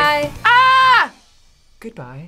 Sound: yells

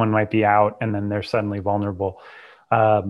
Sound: breath

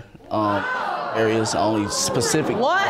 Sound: audience exclaims

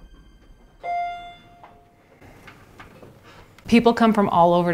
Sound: elevator chiming

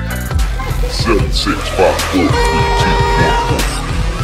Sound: computer Voice

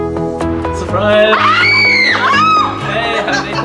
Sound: screams

